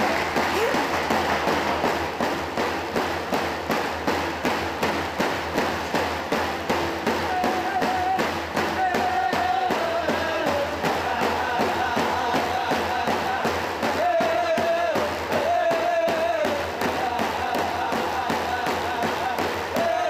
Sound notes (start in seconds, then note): 3.0 cheers and Applause